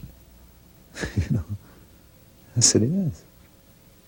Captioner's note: laughs